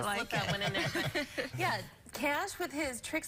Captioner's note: laughter